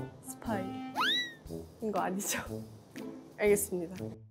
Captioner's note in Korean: 깨갱